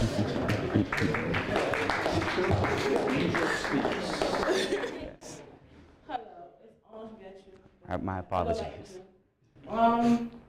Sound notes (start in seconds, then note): 0.1 applause